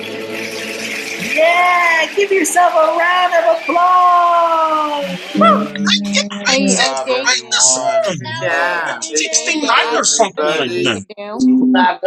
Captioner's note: applause